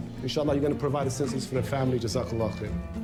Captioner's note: non-english